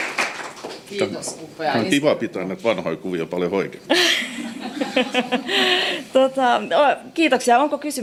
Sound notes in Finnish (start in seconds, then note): 4.0 naurua